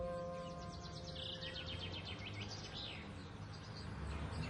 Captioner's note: birds chirping